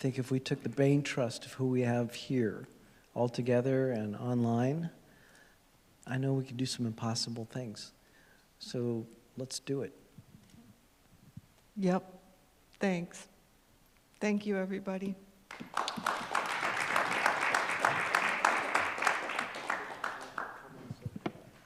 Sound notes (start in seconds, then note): 15.4 applause